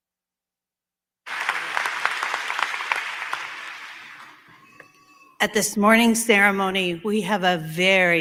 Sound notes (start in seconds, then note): 1.2 applause